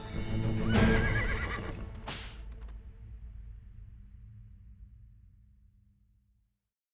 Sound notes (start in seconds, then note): 0.6 neighs; 2.0 whip cracks